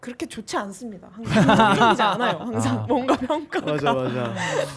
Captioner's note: laughing guitarists